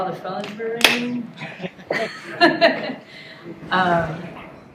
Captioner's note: laughter